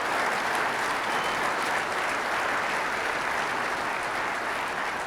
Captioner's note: audience applauding